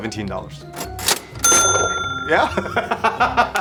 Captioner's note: cash register dings; laughs